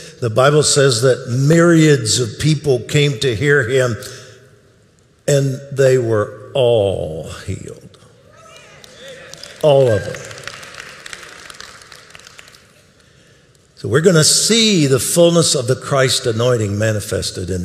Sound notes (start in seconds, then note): 10.9 audience applauding